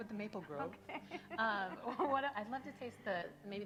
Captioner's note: laughing